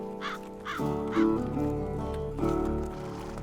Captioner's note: crow squawks, horses approaching